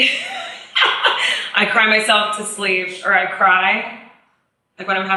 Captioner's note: laughs